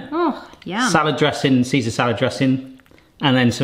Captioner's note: none